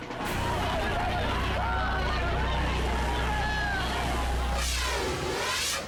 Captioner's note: immigrants chattering anxiously; air whooshes